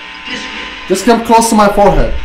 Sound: radio noise hissing

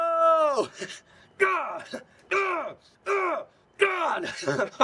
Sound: Jimmy grunting

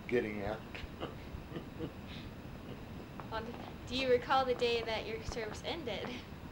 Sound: laughs

